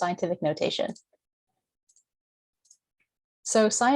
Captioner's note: mouse clicking